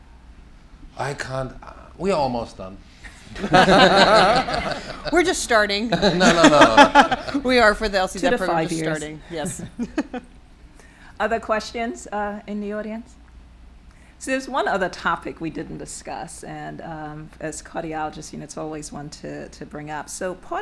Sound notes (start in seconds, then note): 3.0 all laughing